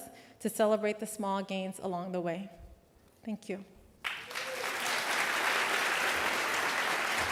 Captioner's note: applause